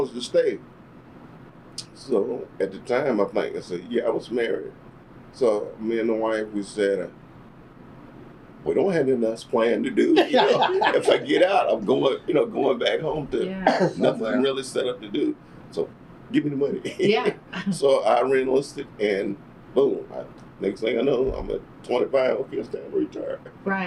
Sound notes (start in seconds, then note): 10.0 laughter